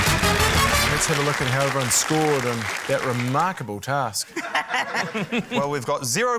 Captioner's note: quirky music; laughter